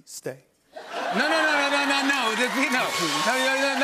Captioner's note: laughter